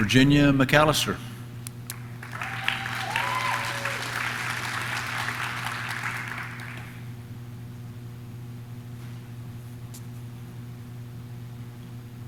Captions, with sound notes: Virginia McAllister, (audience cheers) (audience claps)